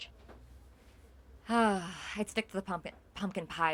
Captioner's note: sighs